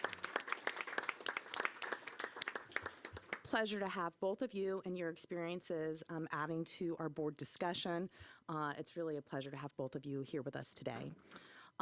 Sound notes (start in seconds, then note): 3.6 applause